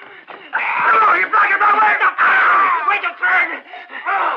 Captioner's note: men screaming